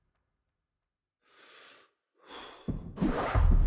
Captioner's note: deep breath